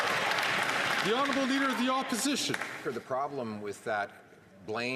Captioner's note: some Applause